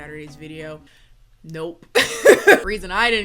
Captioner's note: laughs